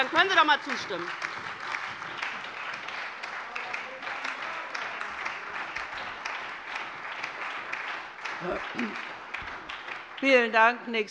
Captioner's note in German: Beifall bei der LINKEN, der SPD und der FDP